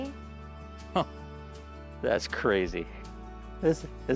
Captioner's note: chuckles